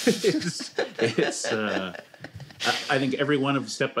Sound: laughter

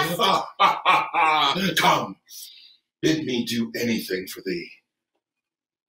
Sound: laughing

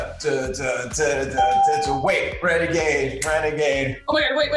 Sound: ding

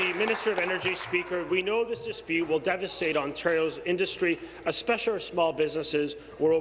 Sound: applause

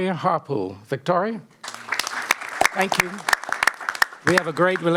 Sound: applause

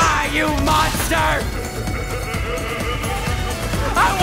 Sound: distant sinister laughter

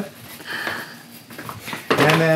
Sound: gasping

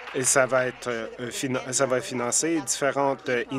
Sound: applause

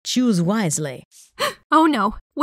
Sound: gasps

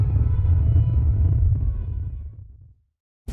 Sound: rocket trails off

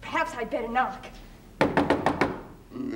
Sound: door knocking

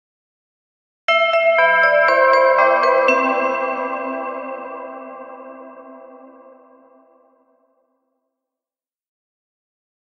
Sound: sound of bell

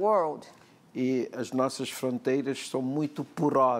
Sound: speaking portuguese

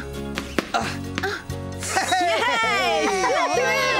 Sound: cheering

